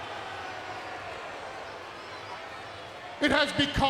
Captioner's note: crowd murmuring